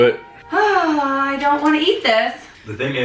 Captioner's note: sighing